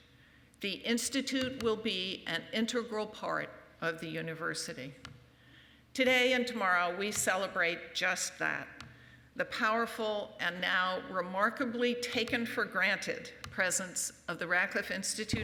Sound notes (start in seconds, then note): none